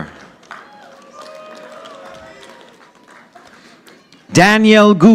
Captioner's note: audience applauding